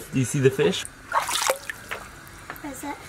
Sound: water splashes

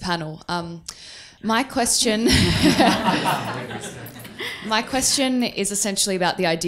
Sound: crowd laughs

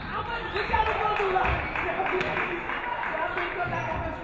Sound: referee whistles; audience clapping

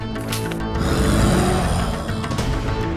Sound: grunting

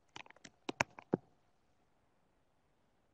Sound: keyboard keys clacking

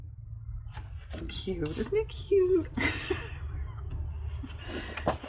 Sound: laughs

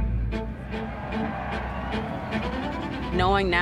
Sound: crowd cheering

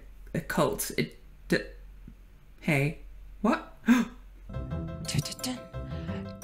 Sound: gasp

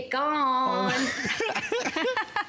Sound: laughter

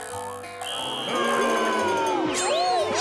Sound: booing

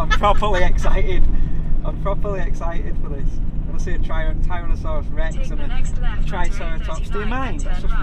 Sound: laughing

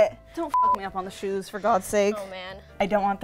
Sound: beep

